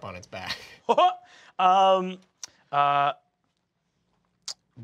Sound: chuckles

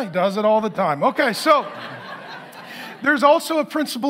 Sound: congregation laughing

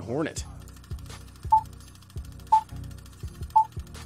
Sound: beeping

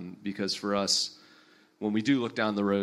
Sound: none

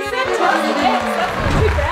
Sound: applause; descending tones

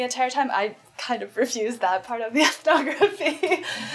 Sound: laughs

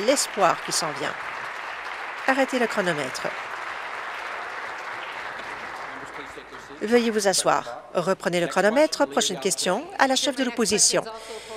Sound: applause

